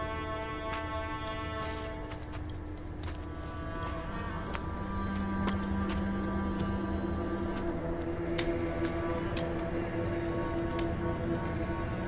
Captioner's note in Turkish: Fon müziği eşliğinde taş, zincir, çalı sesleri